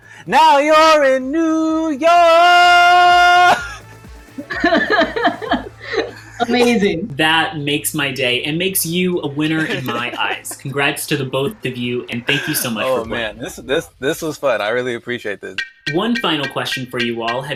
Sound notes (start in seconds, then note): 4.4 everyone laughs